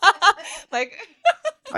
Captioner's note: laughing